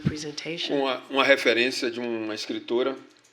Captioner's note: speaking portuguese